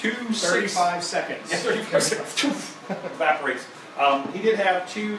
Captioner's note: laughs